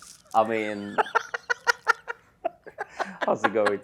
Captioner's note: continues laughing